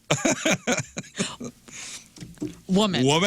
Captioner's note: laughing